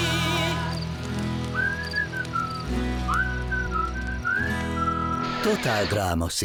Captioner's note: whistling